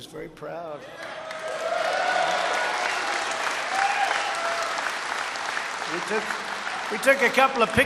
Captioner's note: applause